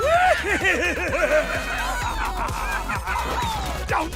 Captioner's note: laughs